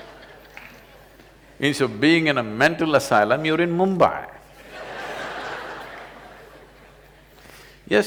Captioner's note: laughter; laughter